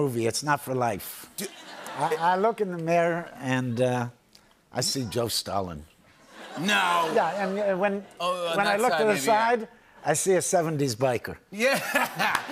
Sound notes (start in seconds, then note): 1.4 laughter; 6.2 laughter